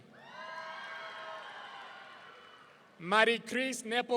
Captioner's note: audience cheering